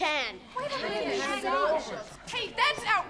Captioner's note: all muttering